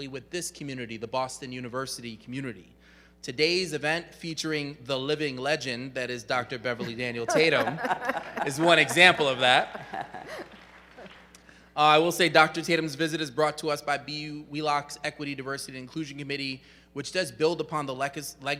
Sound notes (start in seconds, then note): 6.8 chuckle